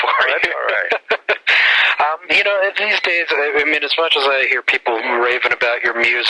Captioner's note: laughs